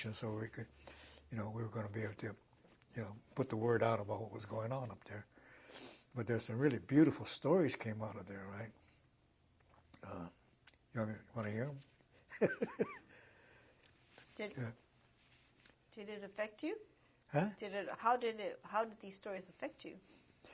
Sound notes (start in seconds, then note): 12.4 laughs